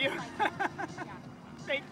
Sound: laughs

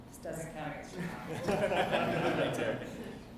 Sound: audience laughs

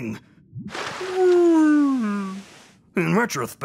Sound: whale groans

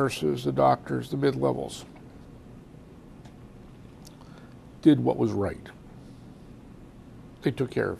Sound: pauses for 3 seconds

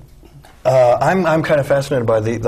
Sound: chuckle

